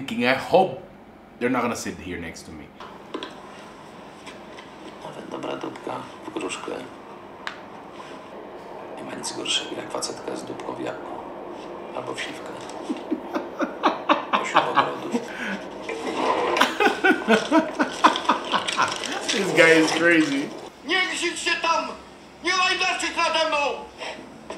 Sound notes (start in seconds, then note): 5.8 foreign language; 13.4 laughs; 17.4 laugh; 21.4 foreign language